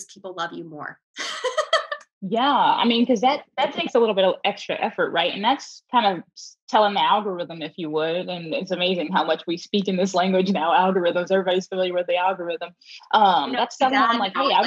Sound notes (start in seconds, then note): 1.2 laughing